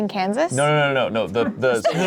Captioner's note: laughs